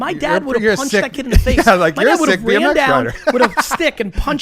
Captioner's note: laughs